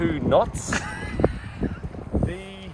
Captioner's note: laughs